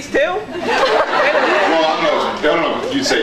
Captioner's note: laughs